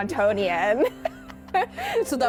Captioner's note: both laughing